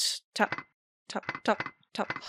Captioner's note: creepy metallic tapping